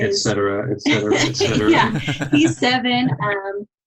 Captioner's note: all laughing